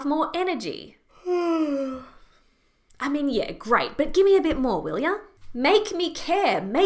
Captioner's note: yawn